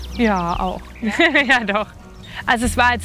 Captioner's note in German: lachend